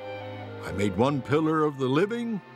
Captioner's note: none